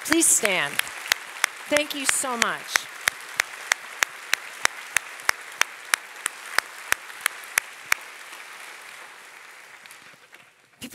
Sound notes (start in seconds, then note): 1.6 audience applauding; 7.0 audience applauding